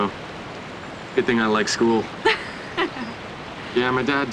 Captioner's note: laughing